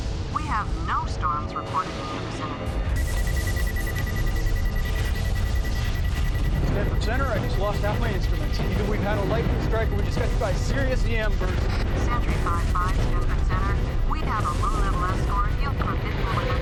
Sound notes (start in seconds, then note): 2.5 rapid beeping